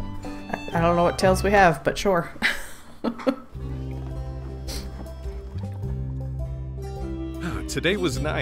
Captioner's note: laughs